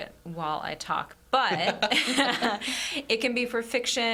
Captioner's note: all laughing